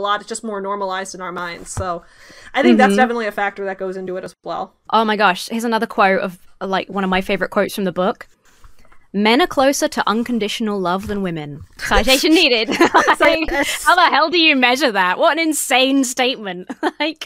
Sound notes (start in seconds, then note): 11.8 laughs